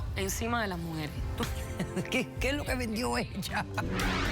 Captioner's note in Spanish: Risas